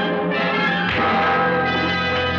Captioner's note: thud